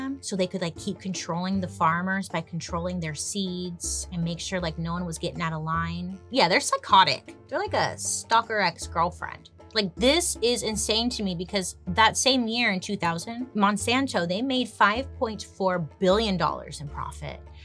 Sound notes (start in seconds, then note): none